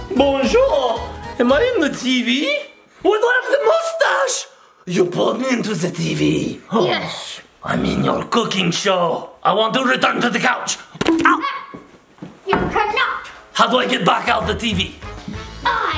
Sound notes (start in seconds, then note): 0.2 french accent; 11.0 banging camera